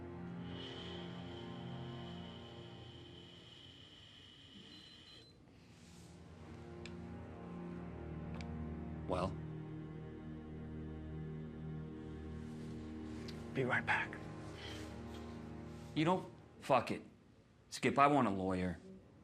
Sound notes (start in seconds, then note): 0.5 air hissing; 6.3 breathalyzer beeps